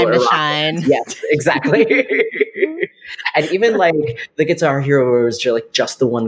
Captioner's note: laughs